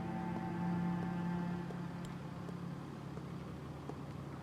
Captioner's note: footsteps clacking